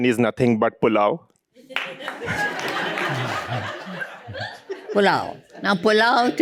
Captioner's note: laughter